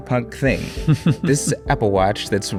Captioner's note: chuckling